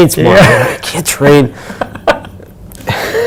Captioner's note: exasperated